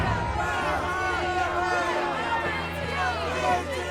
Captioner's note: crowd chanting